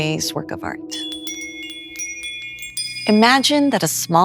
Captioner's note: bells chime